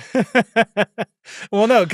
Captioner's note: laugh